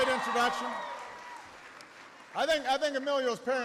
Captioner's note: applause